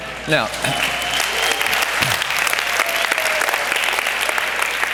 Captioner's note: audience applause